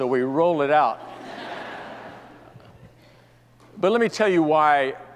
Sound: audience laughs

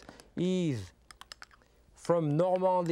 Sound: stirring

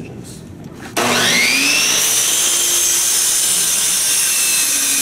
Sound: saw buzzing

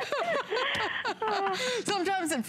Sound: laughter

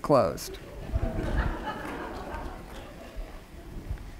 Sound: laughter

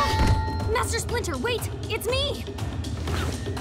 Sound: none

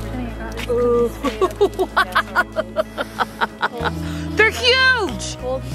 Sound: laughing

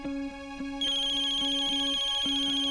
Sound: phone ringing

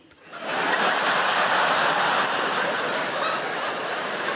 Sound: crowd laughing

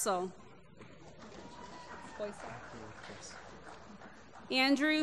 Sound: applause

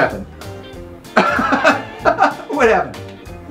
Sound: laughs

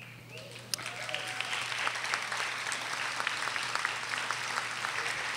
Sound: audience applauding

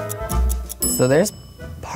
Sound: timer dings

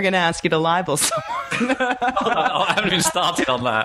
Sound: laughing

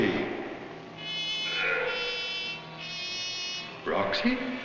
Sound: grunting

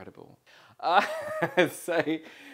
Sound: laughs

